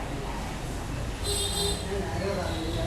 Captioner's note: honking